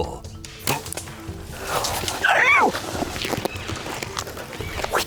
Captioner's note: bowstring thuds